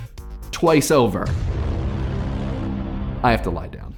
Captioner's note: dramatic sound